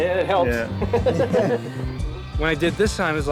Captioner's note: laughing